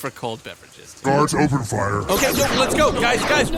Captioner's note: blaster charging and firing noises